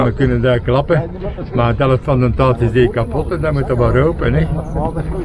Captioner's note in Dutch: lacht